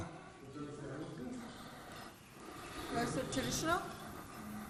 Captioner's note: participants chatting